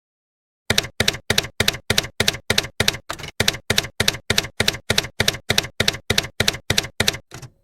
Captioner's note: typewriter keys clacking